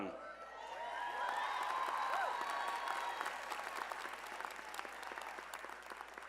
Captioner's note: applause